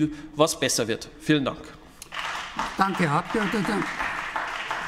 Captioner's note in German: Beifall bei den GRÜNEN